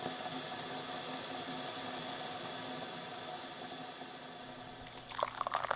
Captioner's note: kettle boiling; pouring hot water